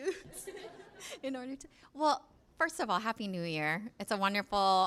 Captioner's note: laughs